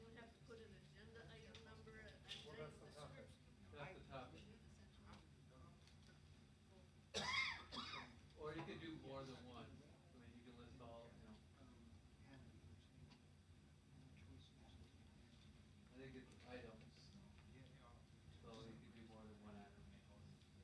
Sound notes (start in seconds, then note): 7.1 coughing